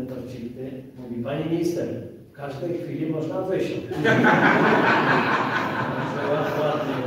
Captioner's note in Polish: Śmiech z sali